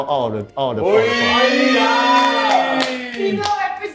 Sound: cheers

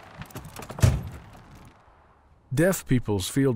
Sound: door bangs

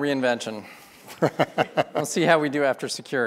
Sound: laughs

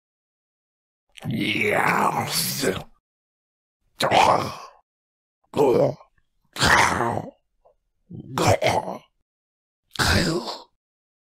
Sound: monster muttering

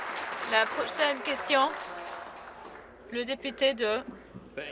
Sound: some Applause

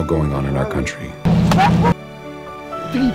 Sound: slap

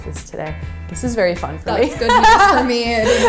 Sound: laughs

